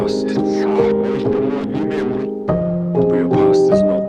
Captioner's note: interference